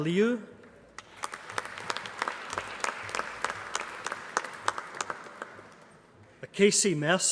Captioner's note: applause